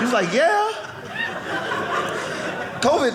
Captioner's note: audience laughing